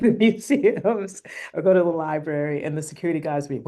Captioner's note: laughter